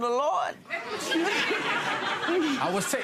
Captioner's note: audience laughing